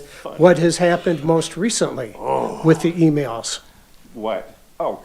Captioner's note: grunting